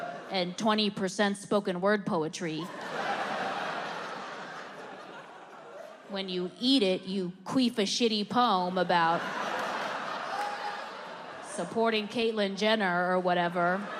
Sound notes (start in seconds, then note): 2.6 audience laughs; 13.8 audience laughing